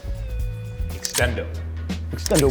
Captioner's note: upbeat music; equipment clinks